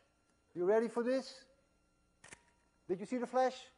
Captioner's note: click